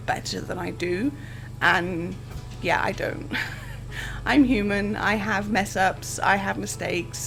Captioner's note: laughs